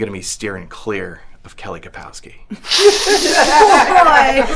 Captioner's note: rehab patients laughing; snorts